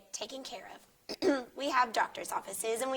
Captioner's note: host clears throat